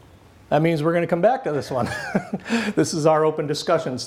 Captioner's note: laughs